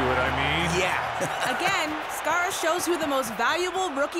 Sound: chuckling

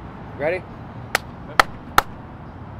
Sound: claps

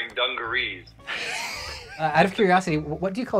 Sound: wheezes

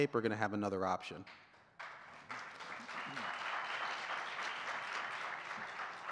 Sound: audience cheering and clapping

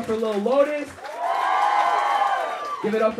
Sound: crowd cheering

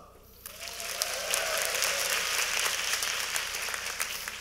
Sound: applaud

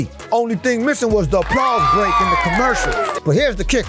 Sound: people cheering

